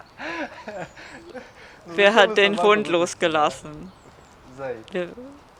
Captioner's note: laughter